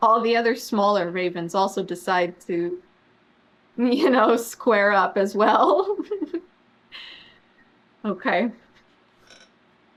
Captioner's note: laughs